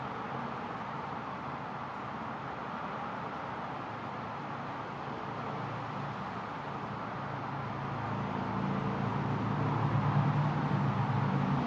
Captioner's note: sounds of a highway